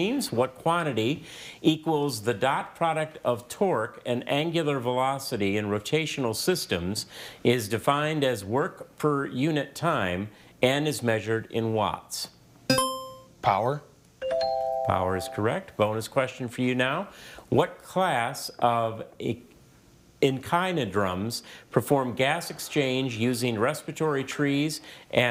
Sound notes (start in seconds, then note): 12.7 scoreboard dings; 12.7 buzzer chimes